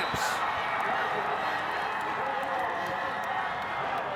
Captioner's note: spectators cheering